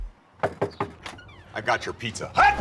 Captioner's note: hand knocking